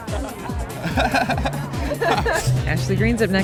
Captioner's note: laughs